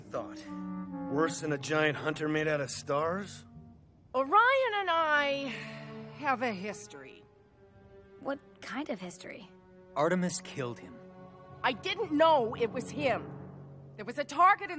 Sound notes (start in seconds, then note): none